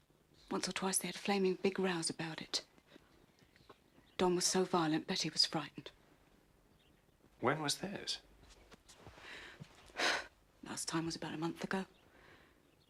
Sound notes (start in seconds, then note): none